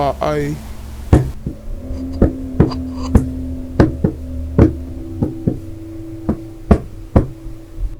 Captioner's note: Wildy knocks